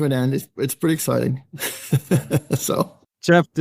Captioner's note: laughing